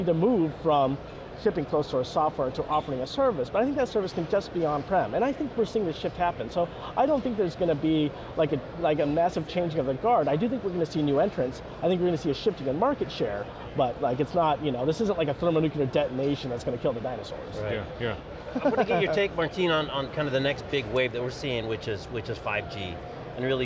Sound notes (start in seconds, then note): 18.5 laughs